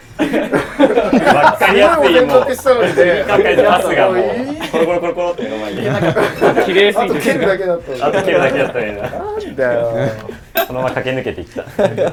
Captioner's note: sounds of boys bonding